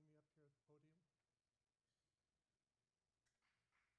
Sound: applauding

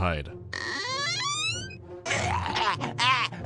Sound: creak

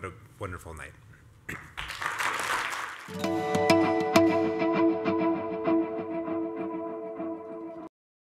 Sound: applause

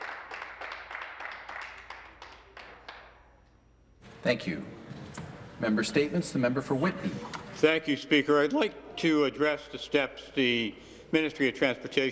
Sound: some Applause

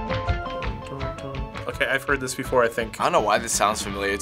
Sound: hums along

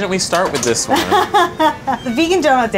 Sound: laughing

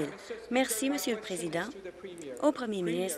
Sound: applause

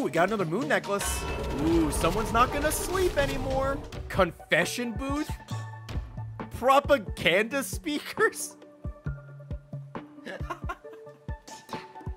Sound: laughs

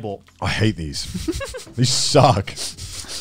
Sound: laughing

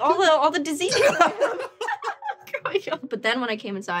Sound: laughter

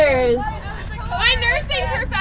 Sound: talking

